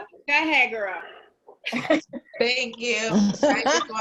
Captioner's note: woman's Voice